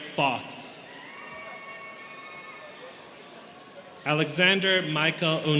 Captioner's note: students cheering